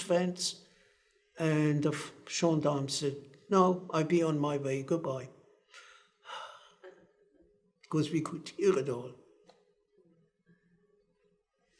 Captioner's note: sighs